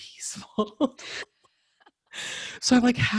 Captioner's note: laughing